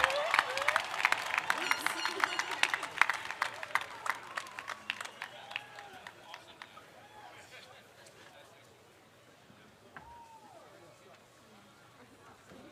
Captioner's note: applause